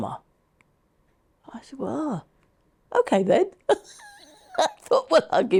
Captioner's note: chuckles